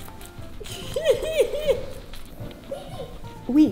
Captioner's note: laughs